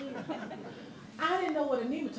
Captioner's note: audience laughing